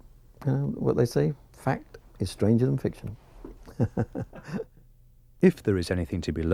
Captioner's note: laughs